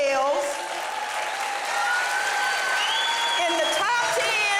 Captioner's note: audience applauding